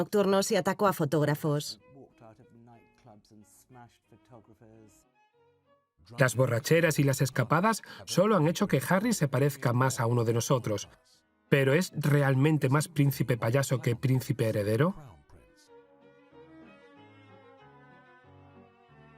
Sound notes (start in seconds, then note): 5.6 voiceover; 15.1 upbeat music